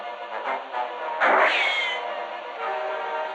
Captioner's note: gunshot